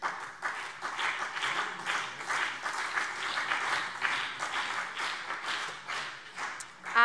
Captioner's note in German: Beifall CDU und BÜNDNIS 90/DIE GRÜNEN